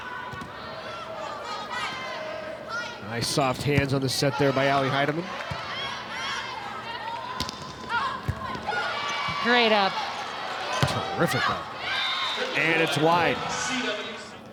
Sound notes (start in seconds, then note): 0.6 players shouting indistinctly; 6.2 players shouting indistinctly; 8.2 ball thumping; 12.3 audience cheering